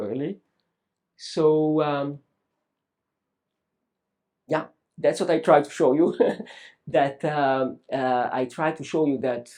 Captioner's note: laughs